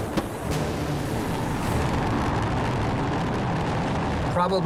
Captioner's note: rocket roaring